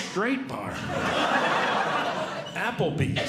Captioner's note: audience Laughing